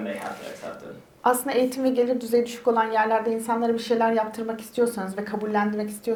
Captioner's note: speaks in Turkish